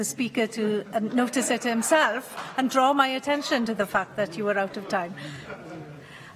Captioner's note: laughter